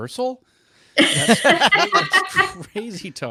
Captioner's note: everyone laughing